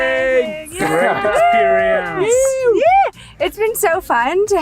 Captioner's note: cheering